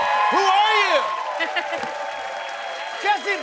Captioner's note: cheers and applause